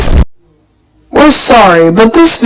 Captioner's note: glitches